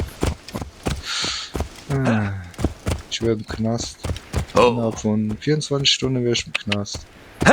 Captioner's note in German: seufzt